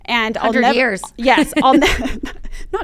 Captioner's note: chuckling